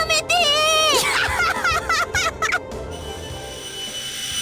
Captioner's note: laugh